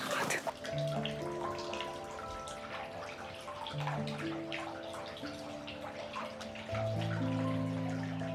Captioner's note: water splashing